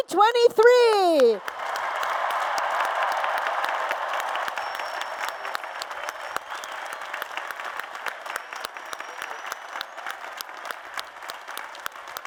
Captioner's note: applause and Cheers